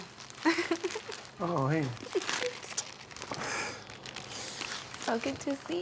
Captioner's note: laughs